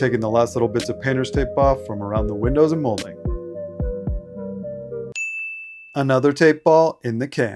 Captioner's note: ding